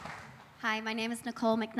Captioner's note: applause